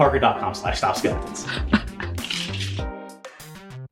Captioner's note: laughs off-screen